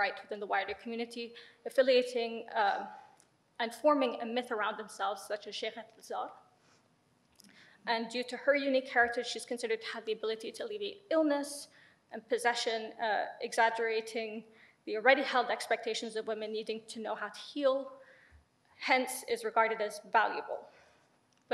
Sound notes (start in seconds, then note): 5.5 speaks in foreign language